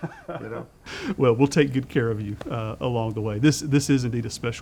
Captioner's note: laughs